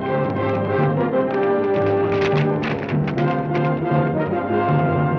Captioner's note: hooves clack